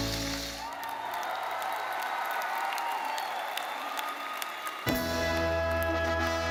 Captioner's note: lively cheerful music fades; audience cheering; audience applauding